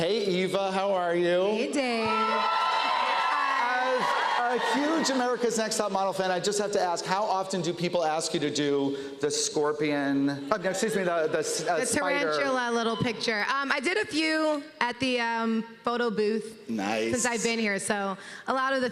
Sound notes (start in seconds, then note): 1.9 cheers and applause